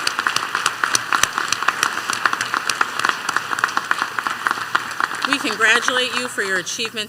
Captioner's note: applause